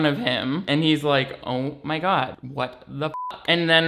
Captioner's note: beeps